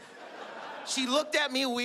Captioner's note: audience laughing